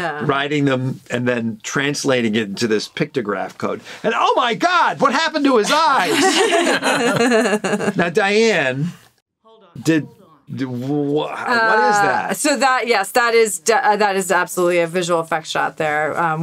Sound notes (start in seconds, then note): 5.7 all laughing